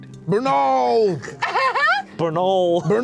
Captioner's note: laugh